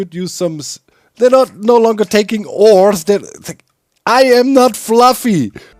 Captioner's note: stammers